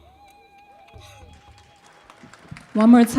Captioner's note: audience applauds